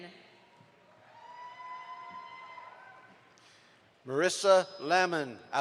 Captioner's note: audience applauds